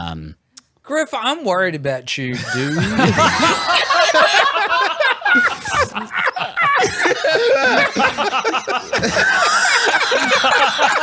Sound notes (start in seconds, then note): 2.9 laughs